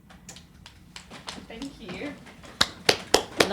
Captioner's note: all clapping